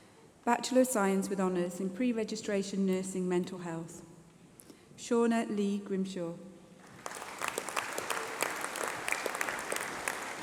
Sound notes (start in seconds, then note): 4.9 applause